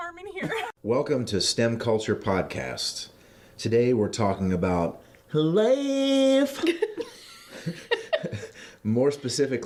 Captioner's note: giggling